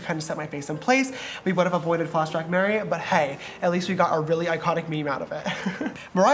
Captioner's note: giggles